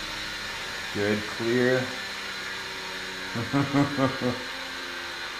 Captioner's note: laughs